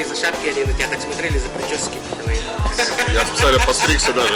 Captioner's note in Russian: смех